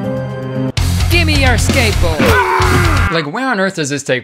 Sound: screams

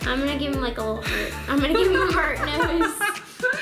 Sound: laughs

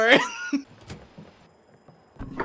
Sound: door opens; sneaky footsteps

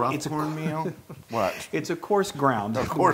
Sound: laugh

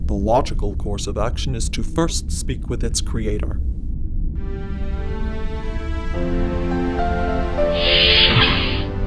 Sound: none

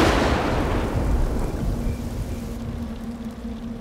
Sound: thunderclap

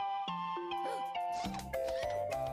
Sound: gasps

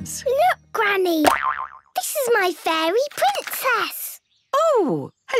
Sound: boing!

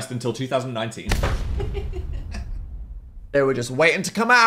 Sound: Phil laughing

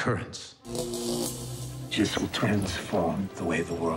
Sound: electricity arc

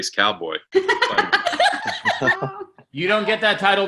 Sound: everyone laughing

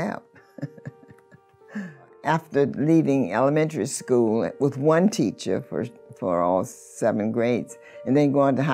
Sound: laughs

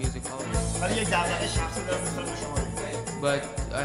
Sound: speaking in farsi

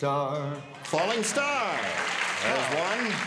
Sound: applause

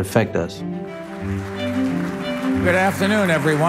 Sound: audience clapping

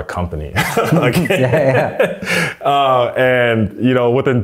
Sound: laughing

